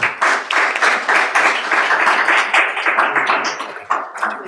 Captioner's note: applauding